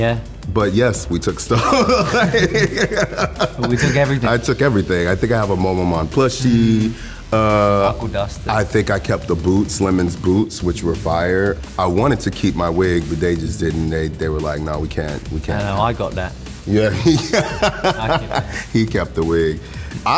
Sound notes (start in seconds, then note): 1.5 laughter